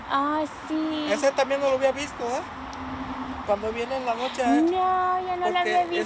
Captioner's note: speaking in Spanish